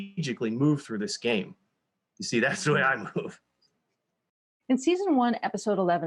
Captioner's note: chuckles